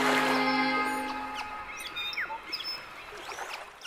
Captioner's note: birds chirping